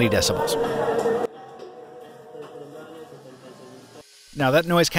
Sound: low muffled chatter

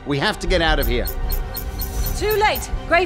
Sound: computer alert

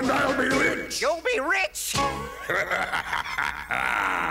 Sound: laughs

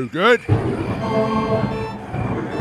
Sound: thunder

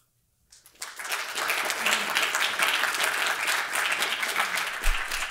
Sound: audience applauding

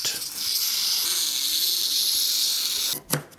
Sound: grinding noise

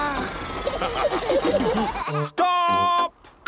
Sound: all laughing

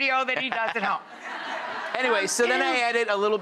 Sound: laughs; audience laughs

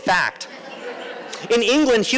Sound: laughter

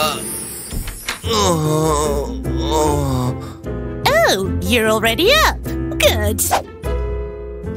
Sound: moaning

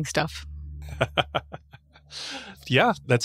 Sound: laughs

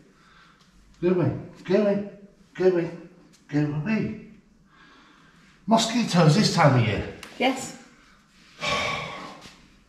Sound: sigh

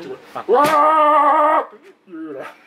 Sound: laughs

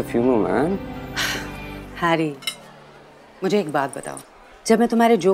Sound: Ananya sighs

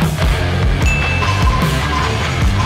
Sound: upbeat music; ding

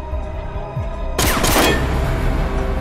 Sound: gunshots

